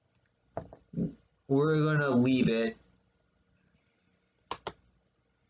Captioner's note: click of trackpad